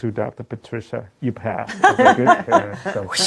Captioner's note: laughter